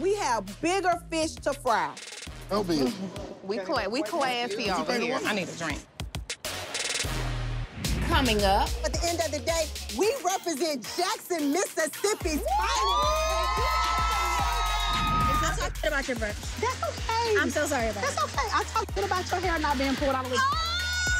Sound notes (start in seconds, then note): 12.4 cheering